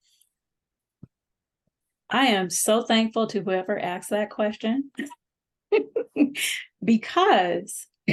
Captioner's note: laughter